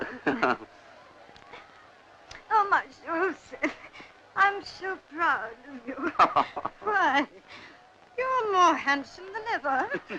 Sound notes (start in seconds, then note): 0.0 laughing; 5.4 chuckle; 9.2 chuckle